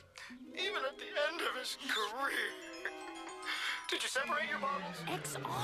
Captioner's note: crying